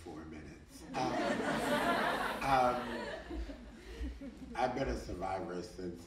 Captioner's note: audience laughing